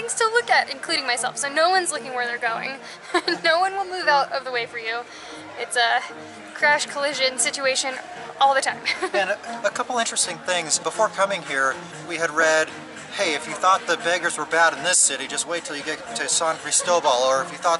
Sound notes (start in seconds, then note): 8.6 laughter